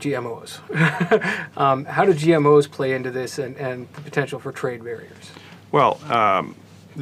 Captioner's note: laugh